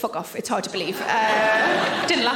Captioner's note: audience laughing